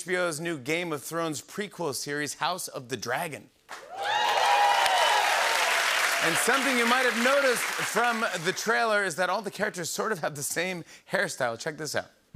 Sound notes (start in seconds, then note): 3.7 cheers and applause